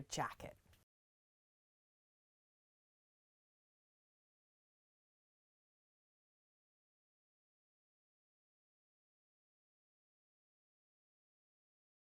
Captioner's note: no Sound Present